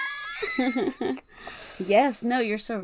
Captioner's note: laughs